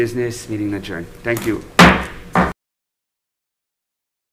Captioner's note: gavel bangs